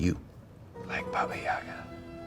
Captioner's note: whispers